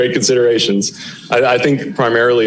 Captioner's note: laughter